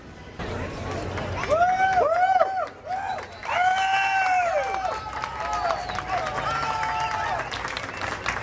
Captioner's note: cheers and adulations